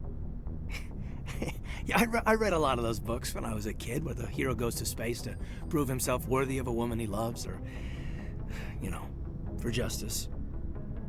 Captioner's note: chuckle